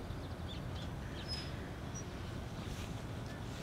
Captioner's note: birds chirping